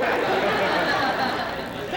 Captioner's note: laughter